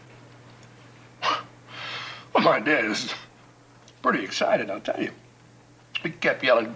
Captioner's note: chuckles